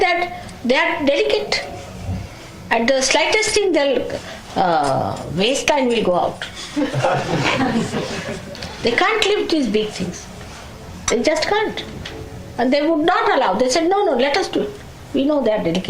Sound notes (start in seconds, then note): 9.6 laughter